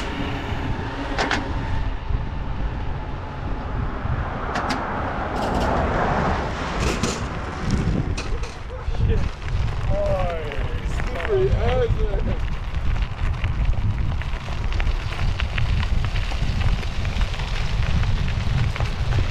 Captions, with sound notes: *Laughs* Shit Slippery as man